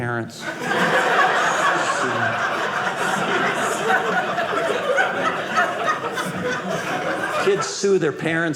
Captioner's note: audience laughing